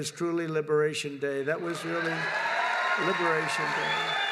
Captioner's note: applause